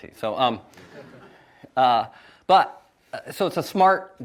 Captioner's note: audience chuckles